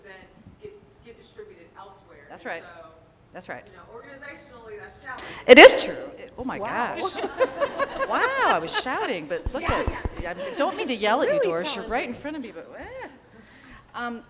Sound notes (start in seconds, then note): 6.9 laughter